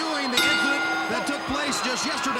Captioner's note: bell ringing